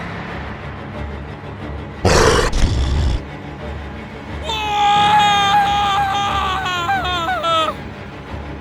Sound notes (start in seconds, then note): 2.0 growling Sound; 4.4 screaming In Terror